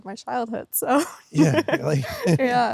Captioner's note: laughs